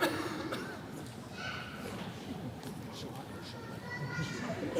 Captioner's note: attendee coughing